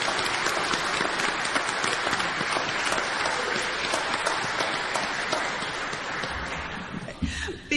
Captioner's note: clapping